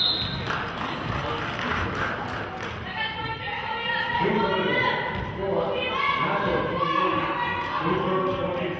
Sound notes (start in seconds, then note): 0.0 whistle blows; 0.4 clapping; 3.4 players hollering